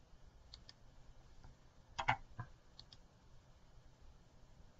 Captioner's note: computer mouse clicks